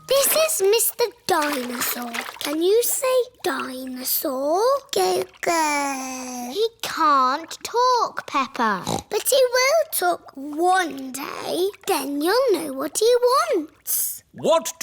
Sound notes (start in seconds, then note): 5.7 babbles; 8.7 snorts